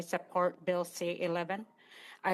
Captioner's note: speaking Indigenous Language